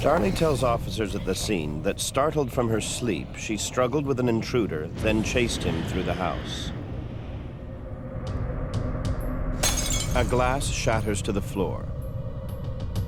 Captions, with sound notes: Darlie tells officers at the scene that startled from her sleep, she struggled with an intruder then chased him through the house. (glass shatters) A glass shatters to the floor.